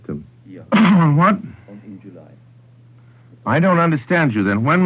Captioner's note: cough